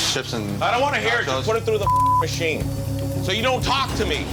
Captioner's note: beep